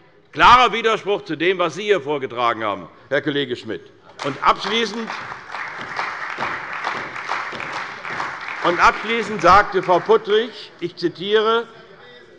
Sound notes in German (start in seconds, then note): 4.1 Beifall bei der CDU